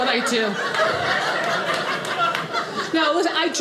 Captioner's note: audience laughing